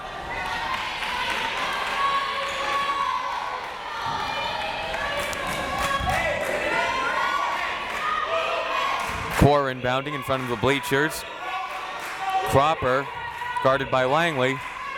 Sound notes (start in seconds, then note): 0.3 crowd members shouting; 6.4 crowd members chanting